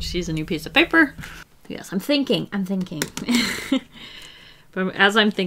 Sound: laughs

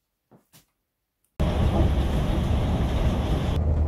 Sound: bus noises

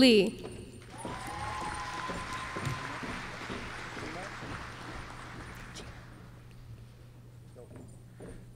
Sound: applause

